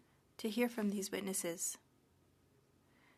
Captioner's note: speaking french